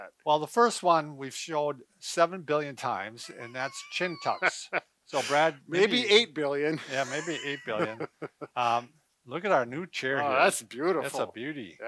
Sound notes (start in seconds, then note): 3.2 laughing; 6.8 chuckling